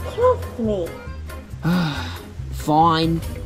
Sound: sighs

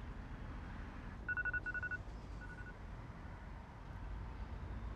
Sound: phone alarm ringing

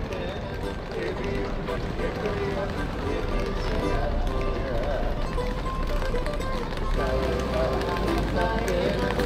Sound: people chattering

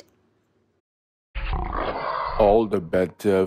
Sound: growl

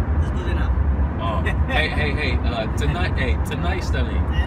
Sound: amharic

